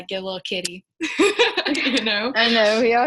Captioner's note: laughing